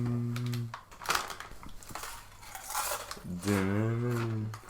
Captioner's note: munching on Doritos